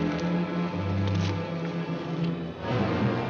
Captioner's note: tree branches rustling; dramatic music